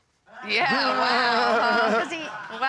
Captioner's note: chuckles